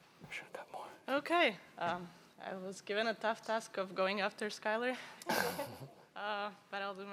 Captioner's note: chuckles